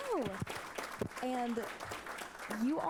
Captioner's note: applause